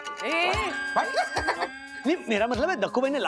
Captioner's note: laughs